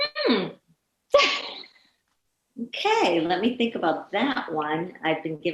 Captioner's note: chuckling